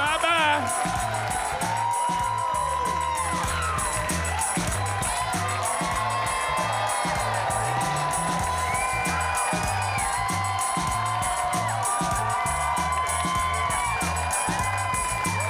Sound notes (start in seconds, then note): 0.9 upbeat music; 3.0 audience cheering